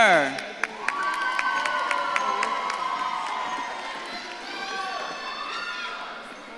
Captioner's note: audience claps and cheers